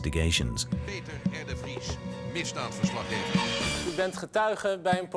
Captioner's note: Dutch spoken audio